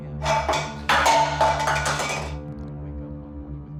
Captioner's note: can falls